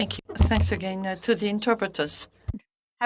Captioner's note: speaking French